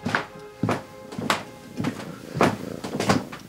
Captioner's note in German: Katze schnurrt